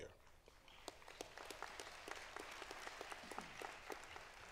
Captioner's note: applause